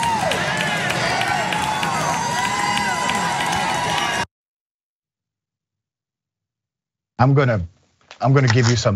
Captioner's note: applause